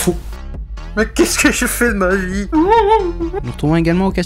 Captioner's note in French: pleurs